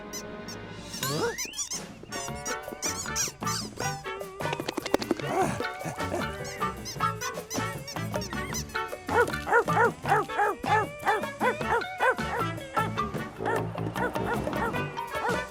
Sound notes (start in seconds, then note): 2.5 costumes squeaking; 2.5 tropical music; 4.4 dog shaking jowls; 4.6 dog panting; 7.5 costumes squeaking; 9.0 dog barking; 14.5 tropical music